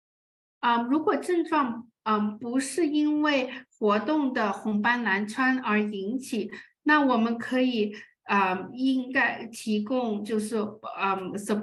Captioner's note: speaking chinese